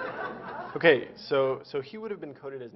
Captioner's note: Laughter; 笑聲